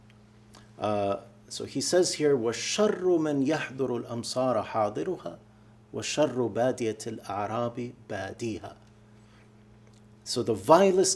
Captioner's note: speaking arabic